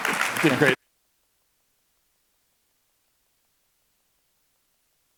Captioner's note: applause